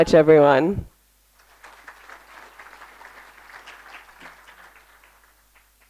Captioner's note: applause